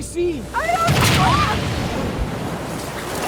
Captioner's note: thud